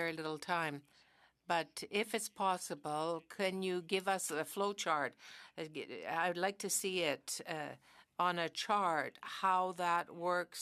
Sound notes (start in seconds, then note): 1.9 speaking French